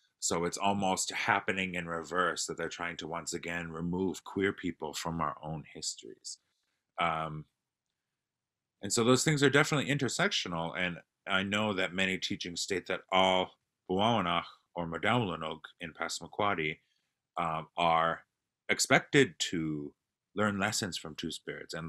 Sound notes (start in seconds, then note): 13.8 non-english speech